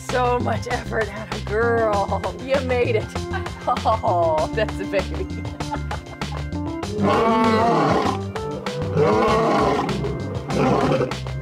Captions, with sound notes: So much effort, girl, you made it. (laughs) That's a baby. (roars continuously)